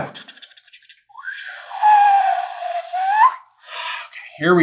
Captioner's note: reverse whistling